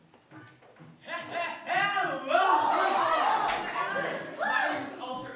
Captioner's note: gasps